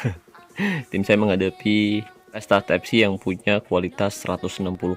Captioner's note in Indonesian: tertawa